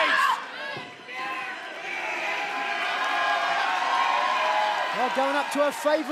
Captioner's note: crowd cheering